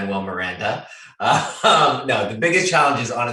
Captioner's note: laughs